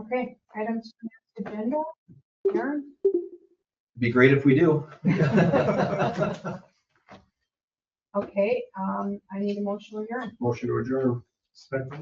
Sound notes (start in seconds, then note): 5.0 everyone laughing